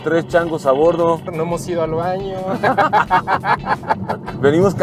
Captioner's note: laughter